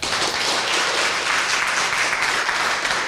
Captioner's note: applause